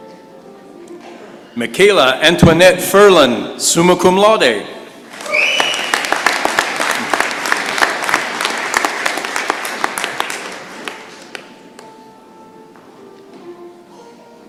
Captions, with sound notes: Mikala Antoinette Ferland, summa cum laude. [applause]